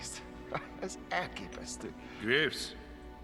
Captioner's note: laughing